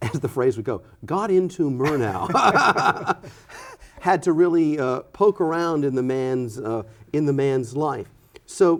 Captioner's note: laughing